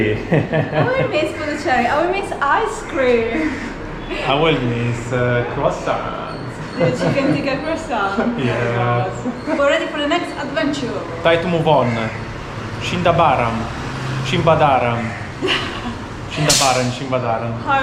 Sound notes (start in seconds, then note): 9.1 laughing